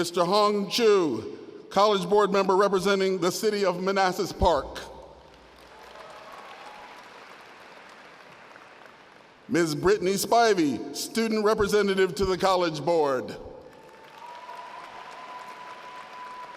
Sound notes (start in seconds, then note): 5.1 applause; 13.6 applause